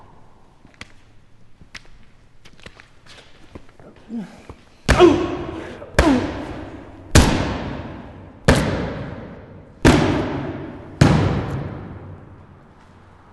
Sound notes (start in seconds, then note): 4.8 bat lands, groans; 4.9 bat lands, yelps; 7.0 bat lands, crunch; 8.3 bat lands, smack